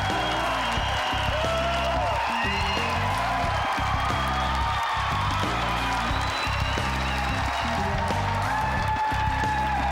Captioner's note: cheers and applause; ending music; cheers and applause; ending music; loud applause